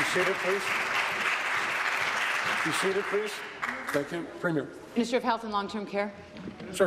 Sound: applause

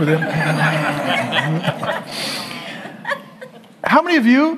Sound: audience laughs

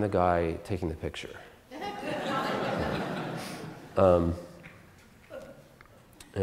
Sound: audience Laughter

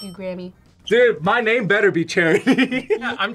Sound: laughs

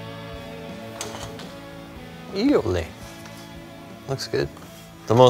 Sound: speaks foreign language

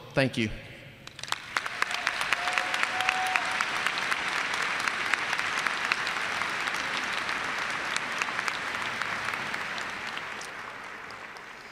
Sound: applause

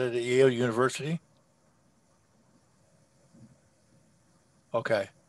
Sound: silence

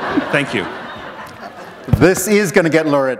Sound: laughter

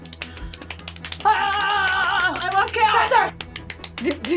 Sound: yells; laughs

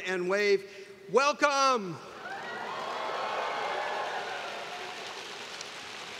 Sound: students cheering

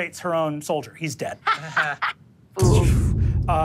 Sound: laughs

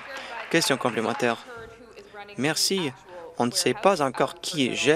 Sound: some Applause

